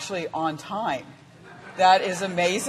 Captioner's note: laughing